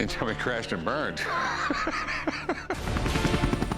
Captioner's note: laughs